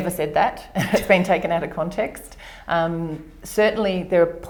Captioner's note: laughs